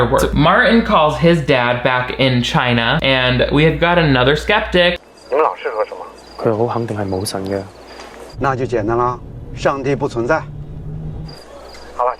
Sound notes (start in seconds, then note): 5.3 man over phone speaking in foreign language; 6.4 Martin speaking in foreign language; 8.5 man speaking in foreign language; 12.0 man over phone speaking in foreign language